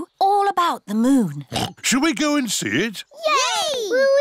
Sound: oinks

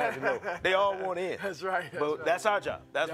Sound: laughing

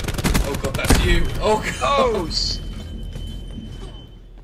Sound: flashbang

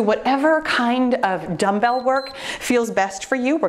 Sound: timer beeps

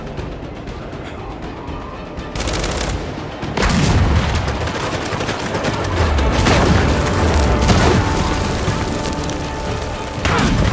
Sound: gunshots

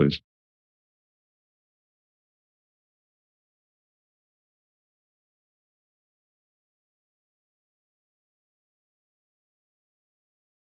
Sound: silence

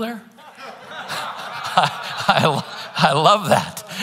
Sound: congregants laughing

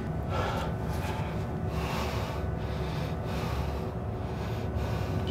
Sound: heavy breathing

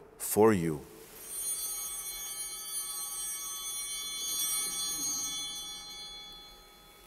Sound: bell ringing

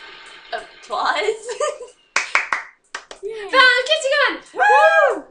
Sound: creepy giggle

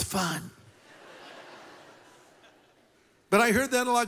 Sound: laughter

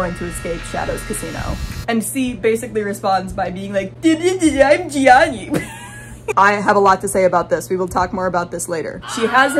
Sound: mocking voice; Wilhelm scream

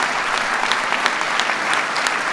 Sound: applause

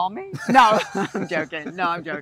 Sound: laughter

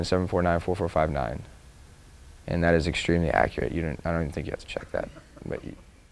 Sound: laughter

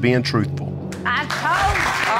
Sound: all clapping

